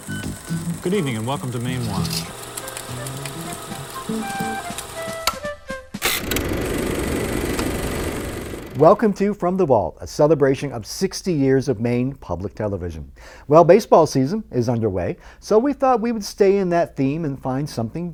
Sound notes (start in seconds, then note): 2.4 upbeat music; 3.8 projector clicking